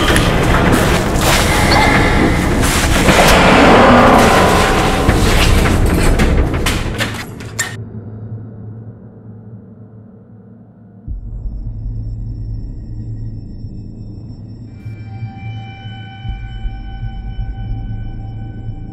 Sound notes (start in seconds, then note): 1.5 Maya grunts; 3.1 skinwalker roars